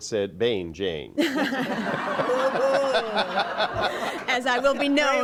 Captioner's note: laughter